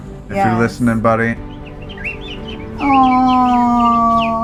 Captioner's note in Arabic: صفير